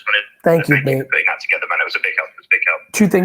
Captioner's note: both chattering